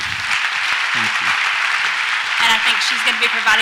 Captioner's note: audience applauds